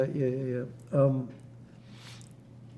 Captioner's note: wiping nose, pauses